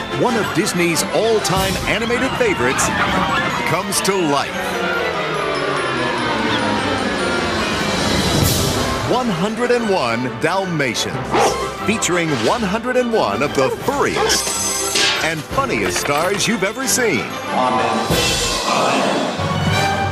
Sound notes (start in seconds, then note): 11.3 barks; 12.9 alarm Clock Ringing,Metal Clang; 18.6 crowd